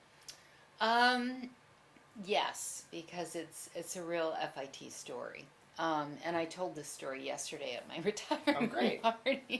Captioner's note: laughs